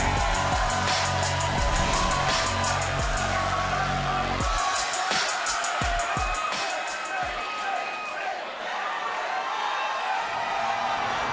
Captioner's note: cheers & applause